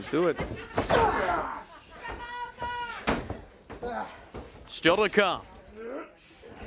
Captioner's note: crowd chatter